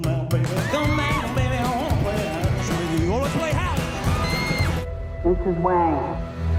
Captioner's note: audience screaming